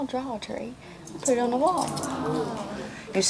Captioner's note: audience sighs